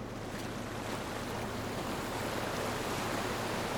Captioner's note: waves crashing